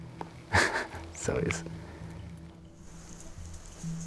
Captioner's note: laughs